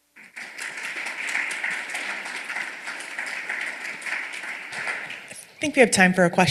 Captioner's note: applause